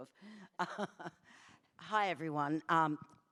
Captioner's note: laughs